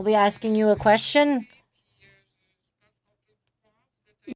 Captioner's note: speaking French